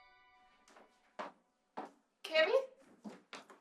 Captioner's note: footsteps approach